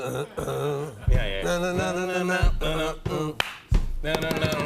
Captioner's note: imitating melody; both imitating melody